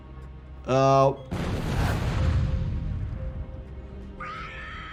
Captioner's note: low ominous music; explosion blasting